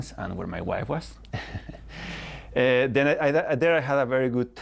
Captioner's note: laughter